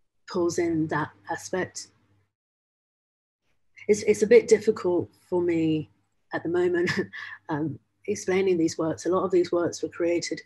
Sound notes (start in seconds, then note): 6.8 chuckles